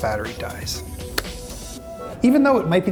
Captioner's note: claps